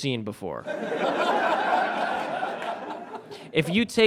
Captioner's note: audience laughs